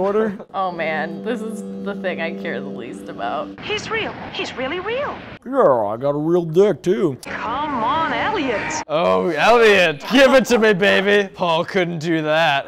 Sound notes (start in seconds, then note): none